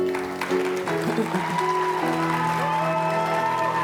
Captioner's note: applause